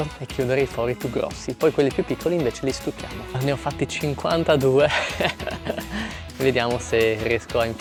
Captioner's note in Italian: risate